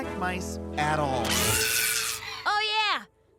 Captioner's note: screaming